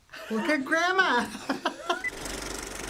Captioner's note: Finebros laughs